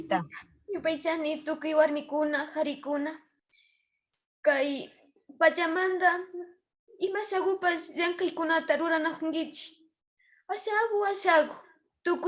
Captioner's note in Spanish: Hablando en Quichua